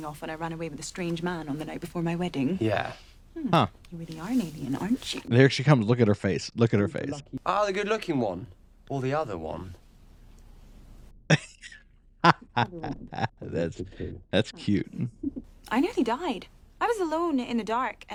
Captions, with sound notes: Huh. There she comes. Look at her face. Look at her face. x2 [laughing] That's...that's cute.